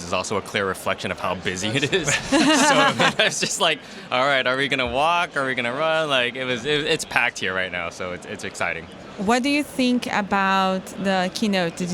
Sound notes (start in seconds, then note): 1.8 laughter